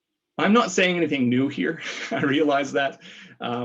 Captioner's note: laughs